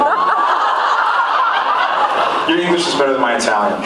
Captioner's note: laughs